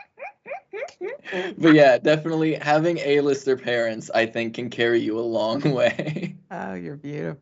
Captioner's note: laugh